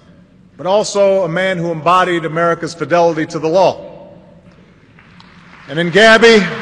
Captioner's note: applause